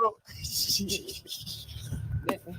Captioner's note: laughing